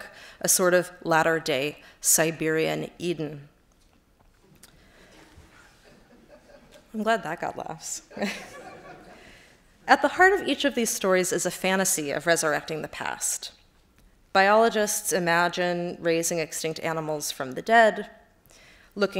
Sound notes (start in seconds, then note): 5.4 laughter; 8.1 chuckles